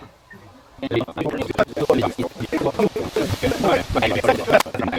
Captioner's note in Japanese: 談笑が続く